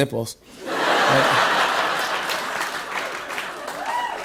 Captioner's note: laughter